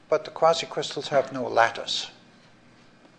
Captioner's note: none